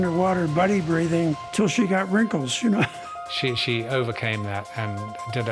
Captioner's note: laughs